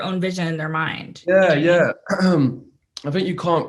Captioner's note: clears throat